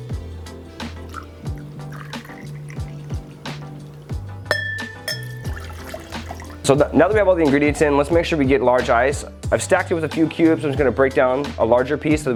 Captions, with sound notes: (glass clanking) So now that we have all the ingredients in, let's make sure we get large ice, I've stacked it with a few cubes, I'm just gonna break down a larger piece